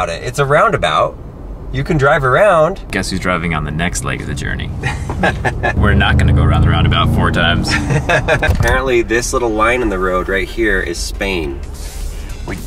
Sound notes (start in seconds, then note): 7.6 laughs